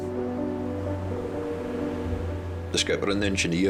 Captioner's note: gentle music; waves roaring